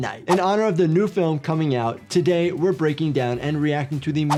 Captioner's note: none